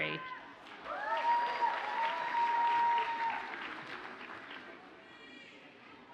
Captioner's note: audience cheers and applauds